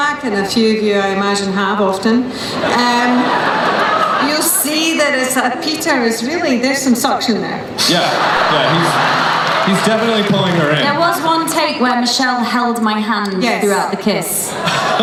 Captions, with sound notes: and a few of you I imagine have often, you'll see that as Peter was, really, there's some suction there. (laughing) - Yeah, he's definitely pulling her in. - There was one take where Michelle held my hand throughout the kiss. - Yes.